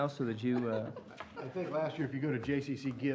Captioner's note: laughter